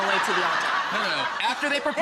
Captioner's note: audience laughs